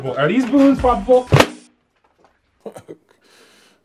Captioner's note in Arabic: البالونة تنفجر بسهولة